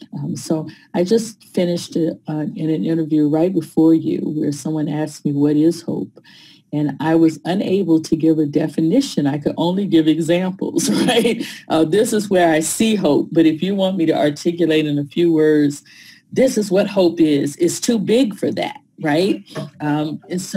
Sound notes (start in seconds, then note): 10.8 laughter